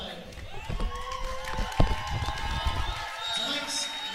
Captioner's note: audience claps